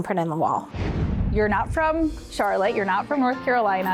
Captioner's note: air whooshes